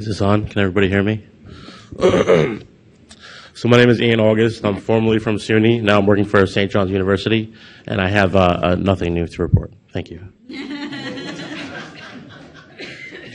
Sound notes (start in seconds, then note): 1.9 clears throat; 10.5 audience laughs